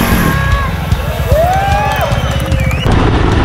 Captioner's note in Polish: Aplauz